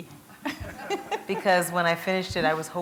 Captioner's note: laughter